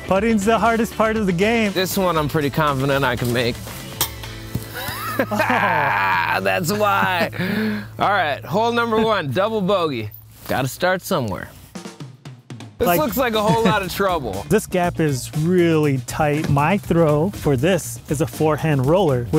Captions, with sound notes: - Putting's the hardest part of the game. - This one, I'm pretty confident I can make. (disc thudding) (both laughing) That's why. Alright, hole number one, double bogey. Gotta start somewhere. This looks like a whole lotta trouble. - This gap is really tight. My throw for this, is a forehand roller,